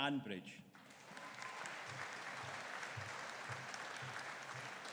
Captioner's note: audience cheering